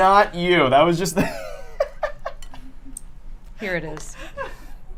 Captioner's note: laughs